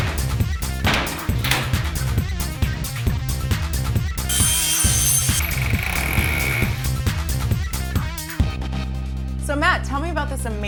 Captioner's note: sounds of tools